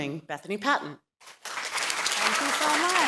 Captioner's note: applause